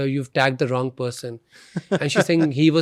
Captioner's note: laughs